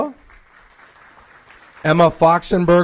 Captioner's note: applause